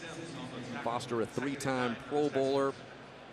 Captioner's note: pa announcement